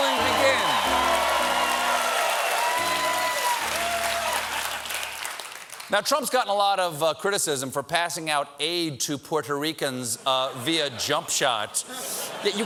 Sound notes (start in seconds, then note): 0.0 cheers and applause; 4.1 cheers and applause